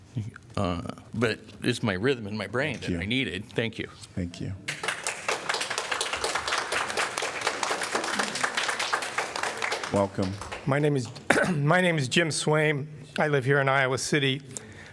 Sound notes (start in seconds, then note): 4.6 applause